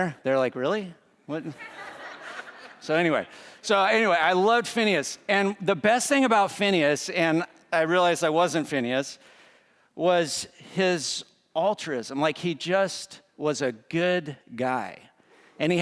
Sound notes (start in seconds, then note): 3.0 students laughing